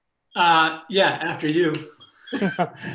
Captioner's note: laughs